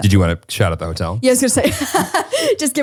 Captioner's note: laughs